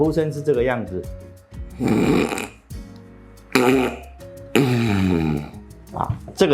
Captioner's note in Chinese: 打呼聲